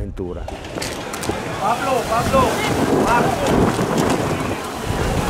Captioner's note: storm noise